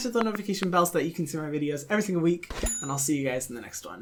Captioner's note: bell ding